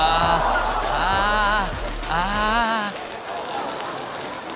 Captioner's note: tongue sizzles